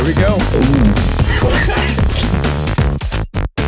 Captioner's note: laughing